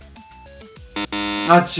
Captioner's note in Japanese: ブッブー